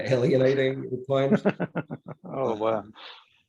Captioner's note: laughs